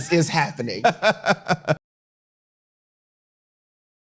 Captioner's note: laughs